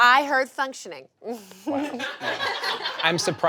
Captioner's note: audience laughs